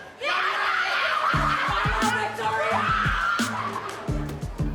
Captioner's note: cackling